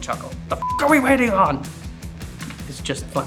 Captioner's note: beep